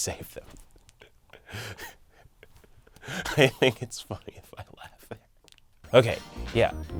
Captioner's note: laughing